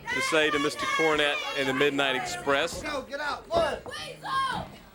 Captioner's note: crowd chatter